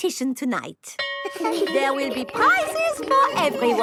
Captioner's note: school bell rings